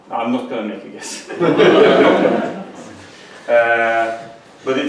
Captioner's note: laughter